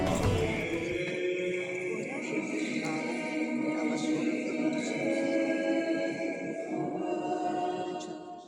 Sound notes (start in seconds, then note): 0.0 chants